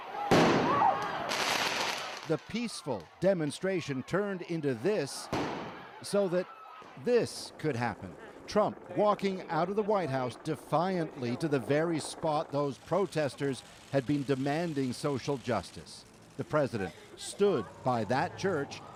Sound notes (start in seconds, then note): 5.3 explosion